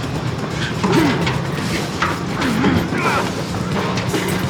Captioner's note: grunts